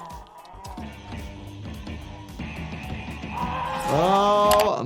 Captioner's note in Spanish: personaje gimiendo